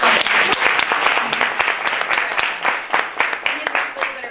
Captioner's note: applause